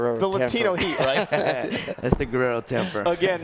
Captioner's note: laugh